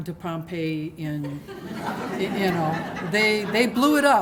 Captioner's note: laughter